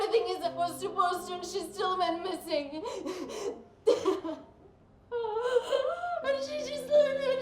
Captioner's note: sobbing